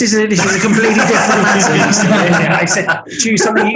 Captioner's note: group laughing